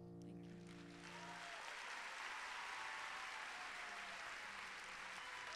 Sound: applause

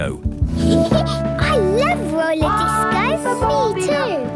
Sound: Peppa laughing; trumpeting

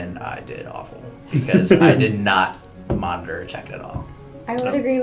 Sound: laugh

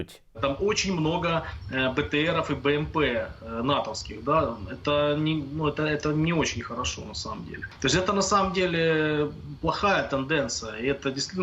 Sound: voiceover of a Russian

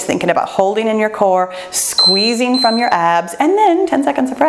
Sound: timer beeps

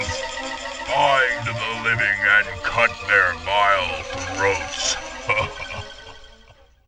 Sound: laughs

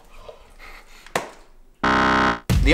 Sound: louder buzz

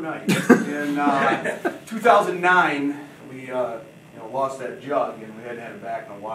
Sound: audience laughing

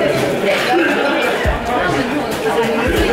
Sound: coughing

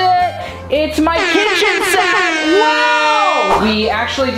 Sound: foghorn blowing

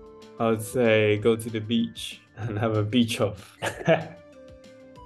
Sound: laugh

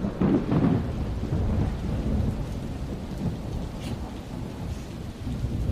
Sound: thunder rumbles

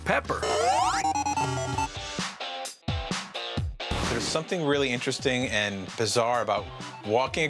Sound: arcade sounds

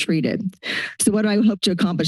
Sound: inhales

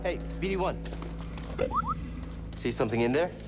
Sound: boop-boop

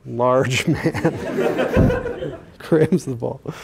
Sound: laughter

